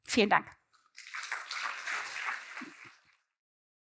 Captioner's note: applause